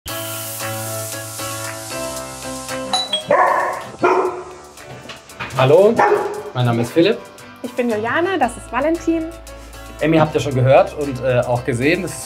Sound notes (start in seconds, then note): 2.1 upbeat music; 2.9 doorbell, barking